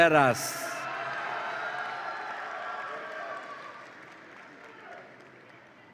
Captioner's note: audience applauds and cheers